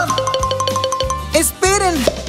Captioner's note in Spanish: Sonido de campana